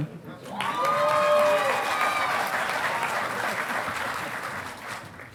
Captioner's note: audience applauding